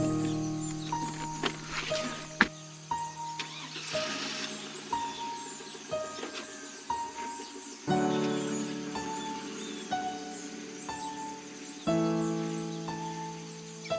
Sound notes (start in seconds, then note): 3.3 engine Starting; 9.1 emotional Piano Music Continues